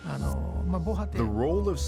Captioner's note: speaking Japanese